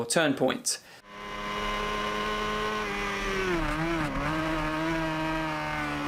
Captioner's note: motorcycle engine revving